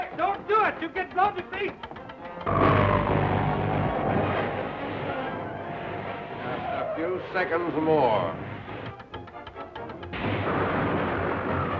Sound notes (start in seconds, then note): 2.4 machinery whirring; 8.9 timer ticking